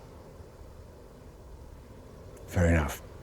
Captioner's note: insects chirping